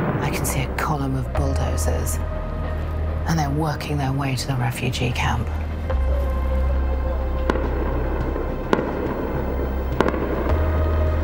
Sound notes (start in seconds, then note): 7.4 distant gunshots